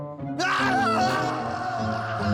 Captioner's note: screaming